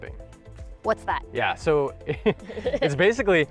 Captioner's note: laughs